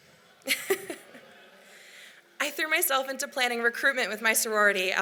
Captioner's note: laughs